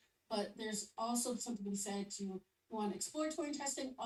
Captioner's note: none